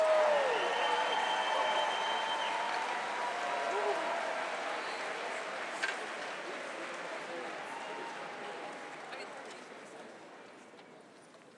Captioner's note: applause